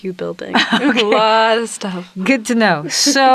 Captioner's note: chuckles